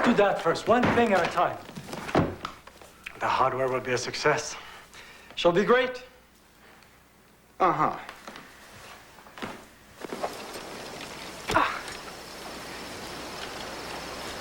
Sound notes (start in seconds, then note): 11.5 grunts of effort